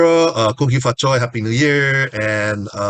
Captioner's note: foreign language